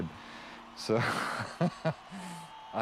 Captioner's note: laughs